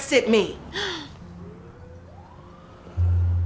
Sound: gasps

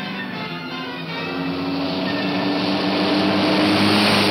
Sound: car roaring

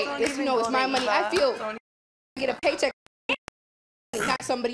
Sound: audio cutting out

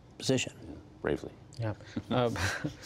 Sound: laughter

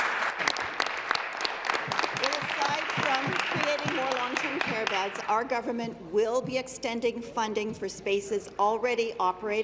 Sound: applause

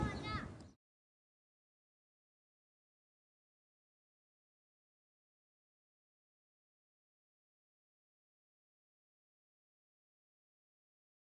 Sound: silence

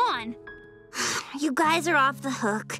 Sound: sighs

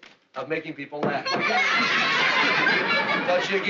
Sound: laughing

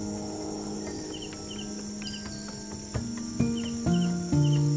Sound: crickets chirping; soft bells ringing

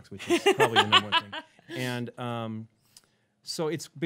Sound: laughing

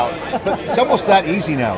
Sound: laughs

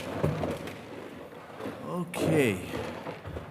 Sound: chairs rasping

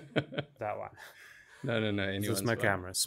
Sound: laugh

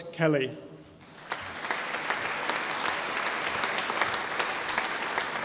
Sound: audience applauding

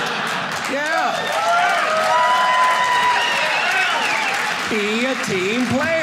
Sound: audience cheering

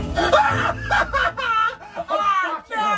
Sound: laughs

